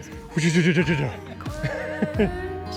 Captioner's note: imitates the sound of a kayak going down a hill; laughs